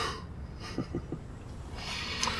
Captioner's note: laughs